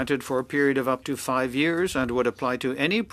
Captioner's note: speaking French